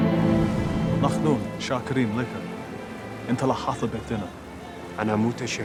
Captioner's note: Hebrew spoken audio